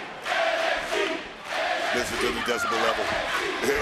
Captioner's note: crowd chants "nxt"